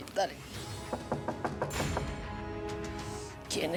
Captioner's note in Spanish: toques en la puerta